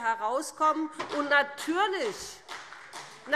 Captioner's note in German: Beifall BÜNDNIS 90/DIE GRÜNEN